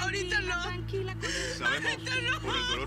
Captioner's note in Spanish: sollozos